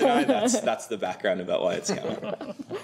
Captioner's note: laughter